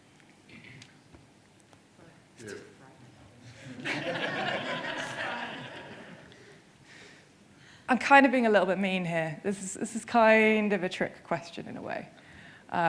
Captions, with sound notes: (person mutters) (audience laughing) I'm kind of being a little bit mean here. This is kind of a trick question in a way.